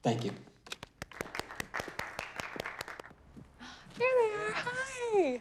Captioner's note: audience clapping